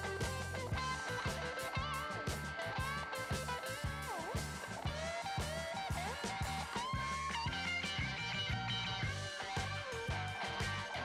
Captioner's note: clap